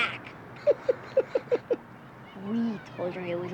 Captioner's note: chuckles; giggles